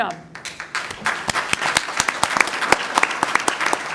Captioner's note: applause